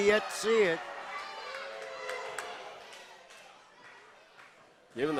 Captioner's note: crowd chatters